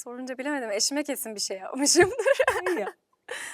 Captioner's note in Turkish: kahkaha